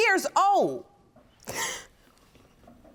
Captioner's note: sobbing